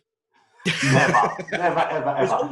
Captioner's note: laughs